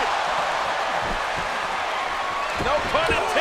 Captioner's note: crowd cheering